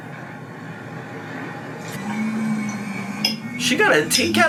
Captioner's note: something whirring